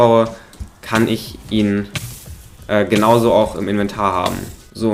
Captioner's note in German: Feuerschaden-Geräusche